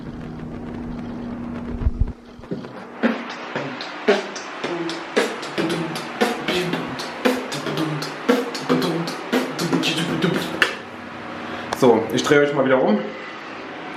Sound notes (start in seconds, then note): 2.0 sick beatbox